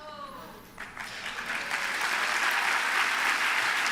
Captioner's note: applause